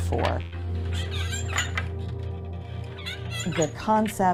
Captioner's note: wood creaking